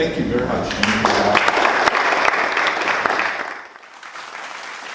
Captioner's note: audience applauding